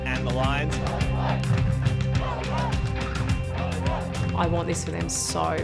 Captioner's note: fans chant